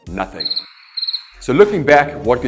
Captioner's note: crickets chirping